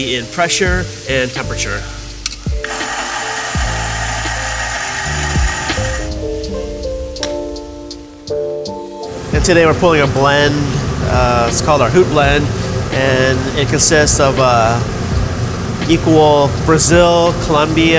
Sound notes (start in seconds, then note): 2.6 machine whirring; 6.4 upbeat music